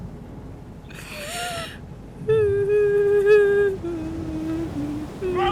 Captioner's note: weeping while humming